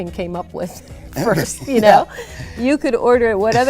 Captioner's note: laughing